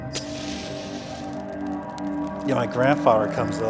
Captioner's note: fire crackling